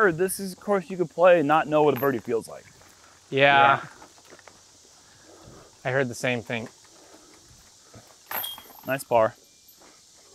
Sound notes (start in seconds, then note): none